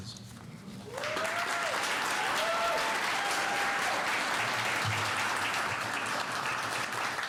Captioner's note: cheers and applause